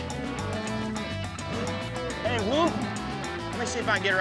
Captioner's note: mooing